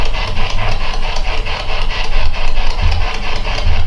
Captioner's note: static